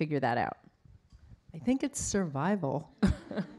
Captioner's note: laughs